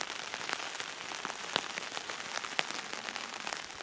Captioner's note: applaue